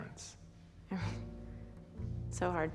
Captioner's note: chuckles softly